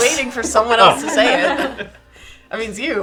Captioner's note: laughing